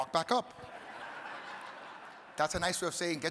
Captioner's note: audience laughing